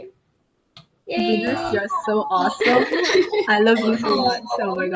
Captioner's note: laughing